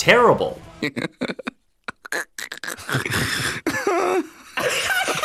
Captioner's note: Peanut Cop and Fitz laughing